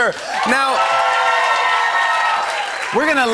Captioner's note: cheers and applause